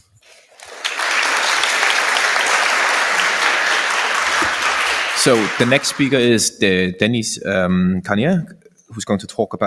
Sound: applause

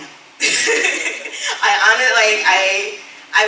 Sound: laughs

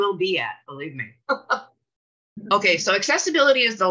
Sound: chuckles

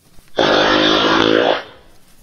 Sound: farts

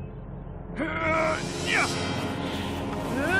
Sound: grunting

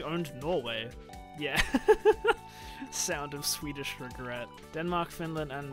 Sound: laughs

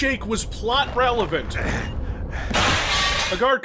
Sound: Doomguy's pain sound

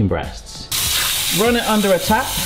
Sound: water flowing

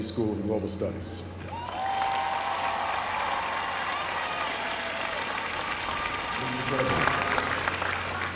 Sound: applause

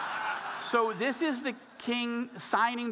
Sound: audience laughing

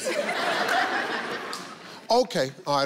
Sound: audience laughing

